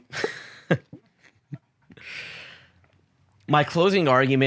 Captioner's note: chuckles